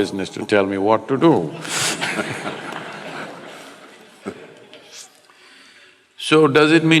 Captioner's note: laughter